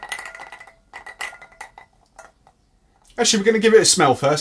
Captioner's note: ice clinks